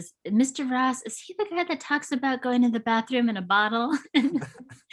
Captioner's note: laughs